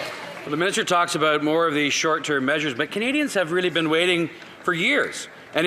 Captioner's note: some Applause